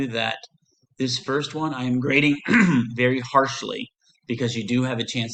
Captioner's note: clears throat